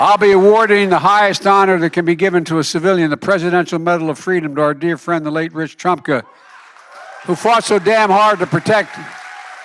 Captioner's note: applause